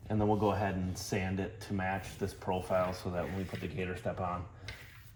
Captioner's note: none